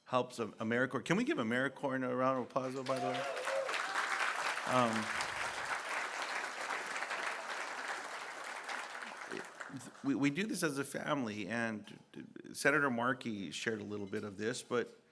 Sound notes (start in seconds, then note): 8.3 applause